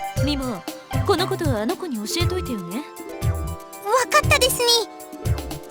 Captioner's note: none